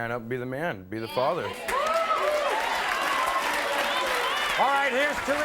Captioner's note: audience cheers